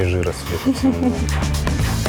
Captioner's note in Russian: смех